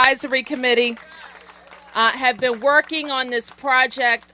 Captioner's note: applause